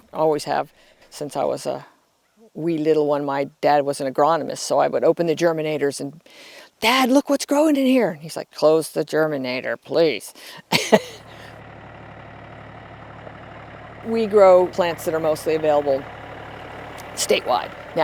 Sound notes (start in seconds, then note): 10.7 chuckles; 11.2 machinery rumbling